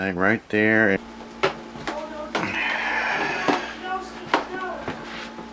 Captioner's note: knocking sound